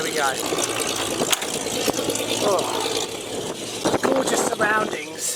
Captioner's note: plane propellers roaring